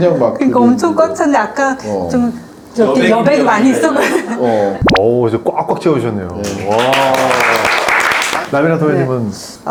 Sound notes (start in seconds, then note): 6.4 applause